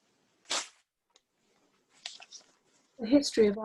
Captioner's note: sound of ripping paper